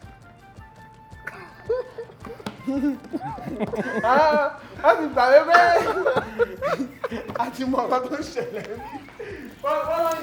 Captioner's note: laughs